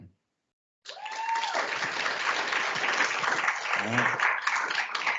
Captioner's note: crowd applauds